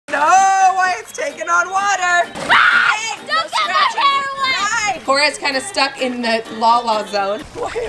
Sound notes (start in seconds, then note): 2.4 screaming